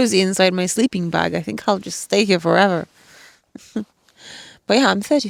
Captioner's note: chuckles